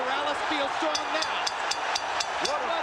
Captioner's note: bell dings